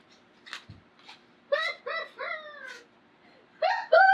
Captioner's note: laughs